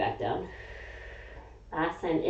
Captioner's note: exhaling